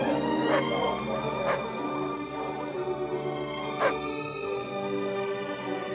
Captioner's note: gentle music continues; dogs barking continues